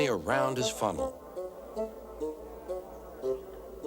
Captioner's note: crowd chatter